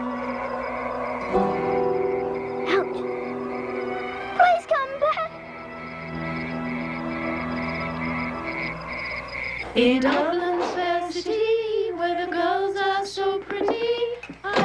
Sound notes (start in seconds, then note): 0.2 dramatic music; 6.4 insects trilling